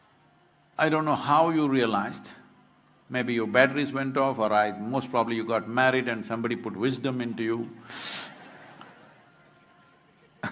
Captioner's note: cheering/Applause